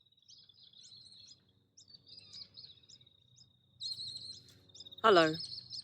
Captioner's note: birds sing in the background